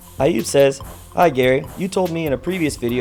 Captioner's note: voiceover